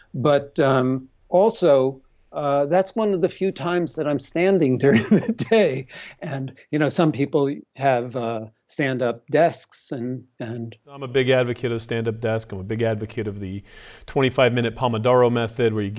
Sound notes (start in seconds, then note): 4.5 laughs